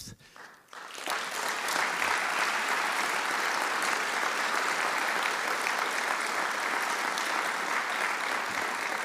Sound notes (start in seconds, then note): 0.3 audience applauding